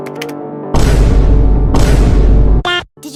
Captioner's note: vine boom 😳😳